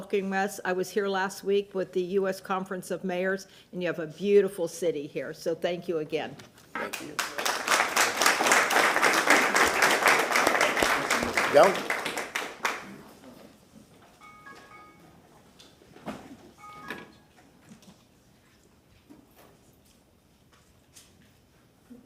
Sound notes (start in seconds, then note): 9.7 applause